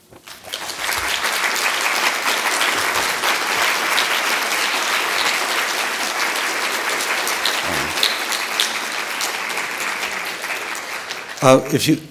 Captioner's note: applause